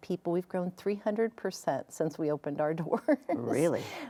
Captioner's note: laughs